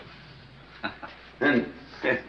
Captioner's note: chuckling